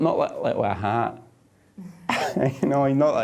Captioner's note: chuckling